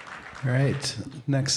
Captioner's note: applause